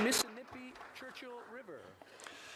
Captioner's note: some Applause